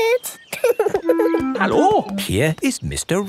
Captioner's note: laughing